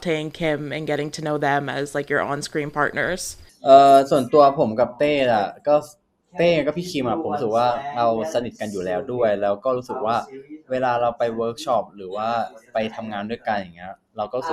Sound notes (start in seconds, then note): 4.9 answering in Thai